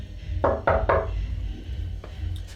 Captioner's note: knock at the door